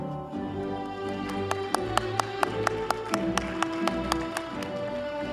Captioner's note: audience applauding